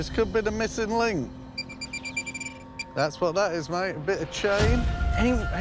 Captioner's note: beeping